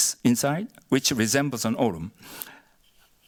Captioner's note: korean